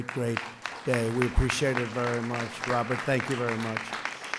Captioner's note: applause